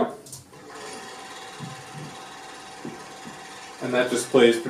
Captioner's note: film reel sound